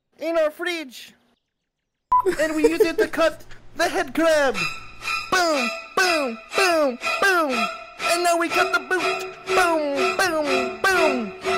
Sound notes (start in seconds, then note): 2.2 laughter; 4.6 more slasher theme